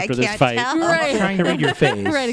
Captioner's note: laughter